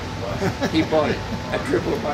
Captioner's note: laughing